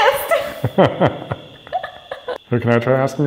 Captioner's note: laughing